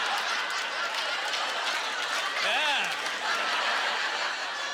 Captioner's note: audience laughter